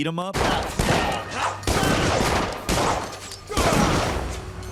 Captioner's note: guns firing